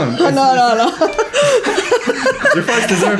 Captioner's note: laughs